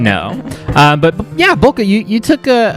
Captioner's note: laugh